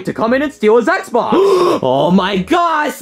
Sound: gasps

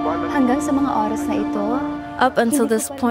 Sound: foreign language

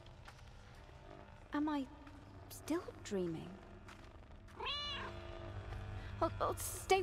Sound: cat meows

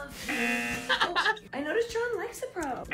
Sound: buzzer rings; laughs

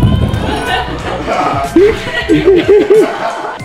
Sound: laughs

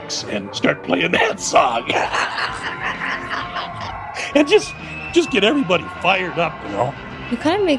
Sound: laughs

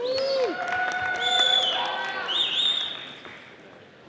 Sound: audience applauding

